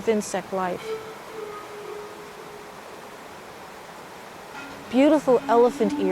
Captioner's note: water streaming; gentle music